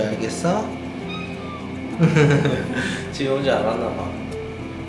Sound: laughter

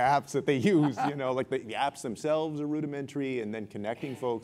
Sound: laugh

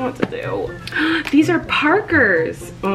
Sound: gasping

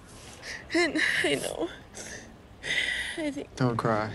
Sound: sniffling

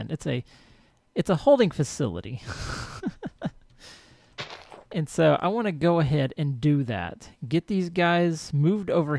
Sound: laughs

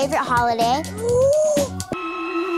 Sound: gasping

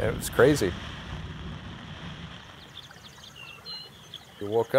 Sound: thunder rumbling; rain splashing

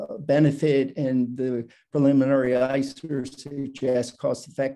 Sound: static

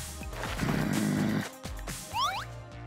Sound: groaning

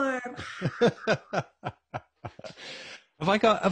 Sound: laughing

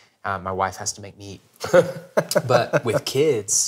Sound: laughing

